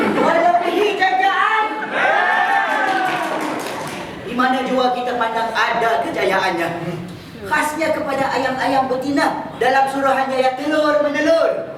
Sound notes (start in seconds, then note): 1.8 animals cheer